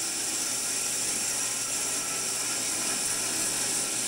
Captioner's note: saw whirring